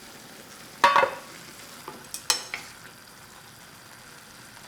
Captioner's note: food simmering